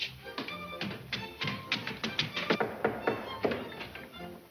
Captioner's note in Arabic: طرق على الباب